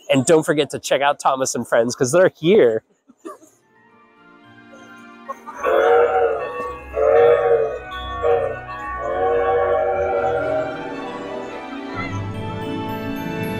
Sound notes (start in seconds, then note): 3.2 train whistle